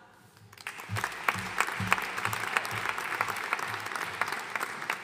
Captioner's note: audience applauding